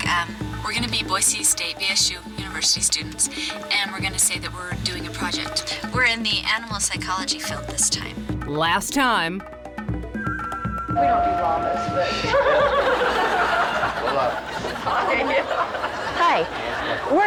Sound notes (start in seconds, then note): 12.1 women laugh